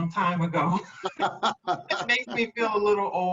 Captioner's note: laughs